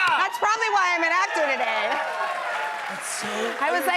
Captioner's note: cheers and applause